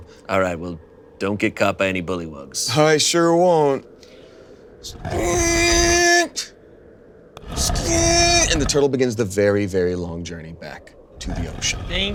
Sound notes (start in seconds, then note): 5.1 Turtle Dragon grunting; 5.1 stone scraping